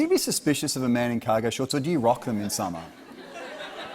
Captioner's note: laughter